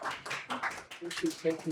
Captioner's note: applause